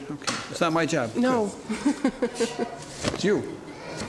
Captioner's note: chuckles